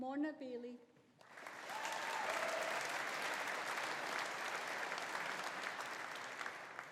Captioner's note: audience applauding; audience cheering